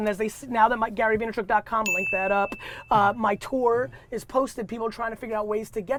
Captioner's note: bell dings